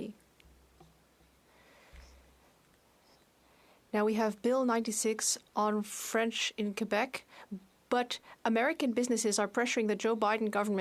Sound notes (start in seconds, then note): 2.8 speaking French